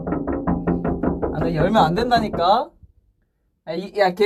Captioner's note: knocking